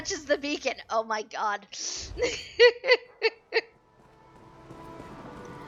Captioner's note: laughing